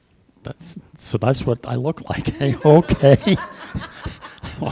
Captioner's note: laughter